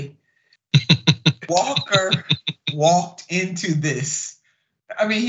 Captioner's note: laugh